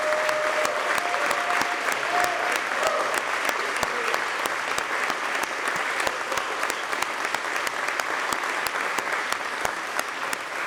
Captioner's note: applause